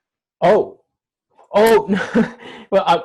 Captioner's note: nervous laugh